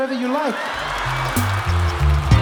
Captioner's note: audience cheers; upbeat music